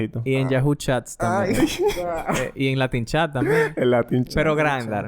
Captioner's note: laughs